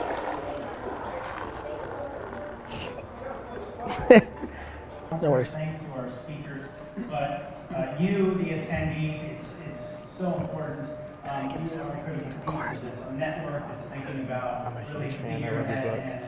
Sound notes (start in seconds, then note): 3.7 Gary laughs